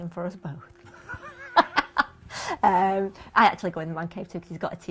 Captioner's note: laughter